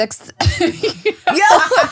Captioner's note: laughing